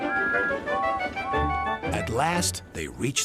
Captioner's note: blows whistle; toots back